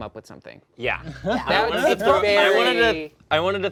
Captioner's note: players chatter